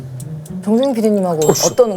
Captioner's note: pouring